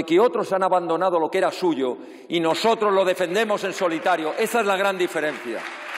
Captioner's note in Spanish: Aplausos